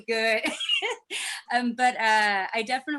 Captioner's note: chuckles